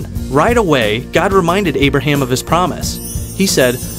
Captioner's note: chimes